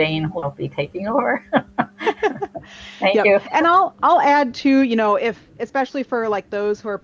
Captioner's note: laughter